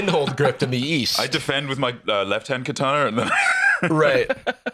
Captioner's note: laughs